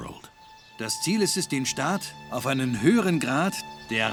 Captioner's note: speaking in German